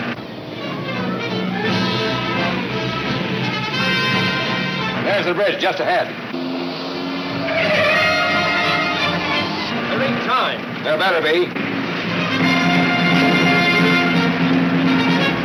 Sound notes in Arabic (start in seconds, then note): 0.4 موسيقى الأوركسترا الدرامية; 5.6 اصوات صرير الاطارات; 15.2 موسيقى أوركسترا مثيرة